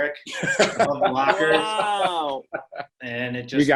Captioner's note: laughter